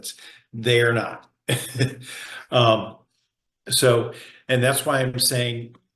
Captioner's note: chuckles